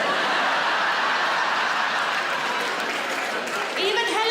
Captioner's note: audience laughs